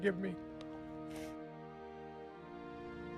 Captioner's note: soft music; sniffles